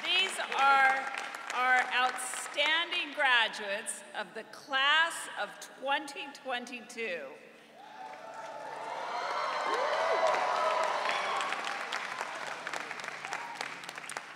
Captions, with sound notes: These are our outstanding graduates of the class of 2022. (audience cheering)